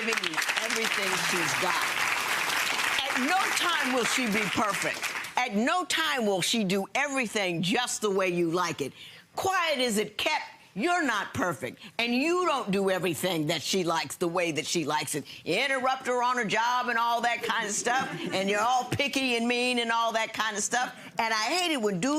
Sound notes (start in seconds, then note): 2.7 audience clapping